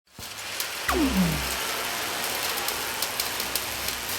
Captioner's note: sound effects playing